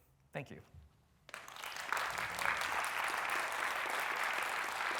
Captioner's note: applause